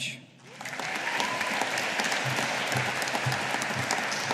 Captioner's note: audience applauding